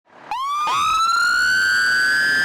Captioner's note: siren